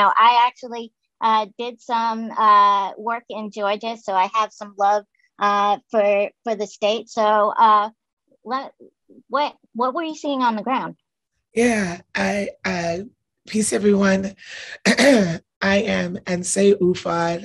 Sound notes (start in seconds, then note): 12.5 hoarsely